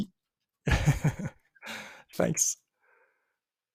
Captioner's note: chuckles